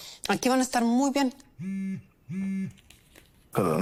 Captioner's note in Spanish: Suena el celular